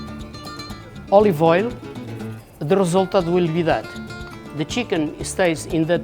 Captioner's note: speaking Portuguese